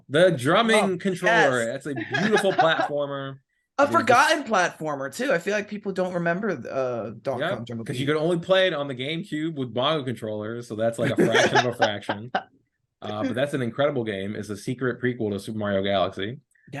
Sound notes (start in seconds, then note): 11.0 laughing